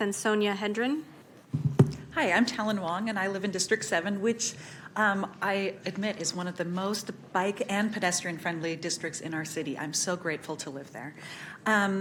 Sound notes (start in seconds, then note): none